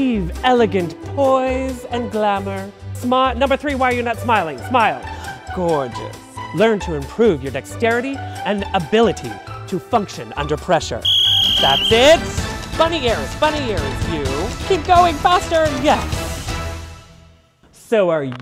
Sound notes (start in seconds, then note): 11.0 whistle